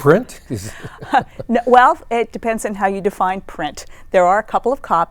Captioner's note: chuckling